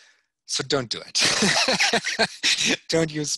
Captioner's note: laughing